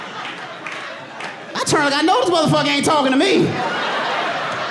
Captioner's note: audience laughing